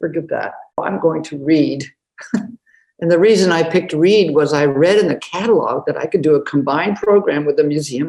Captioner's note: laughs